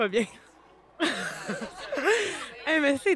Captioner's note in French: rires